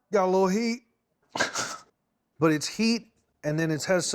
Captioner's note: coughs; laughs